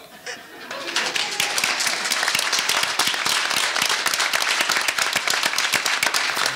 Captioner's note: audience lightly chuckling and applauding